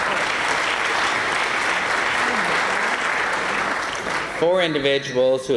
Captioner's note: applause